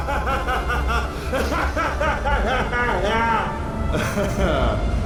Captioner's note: laughs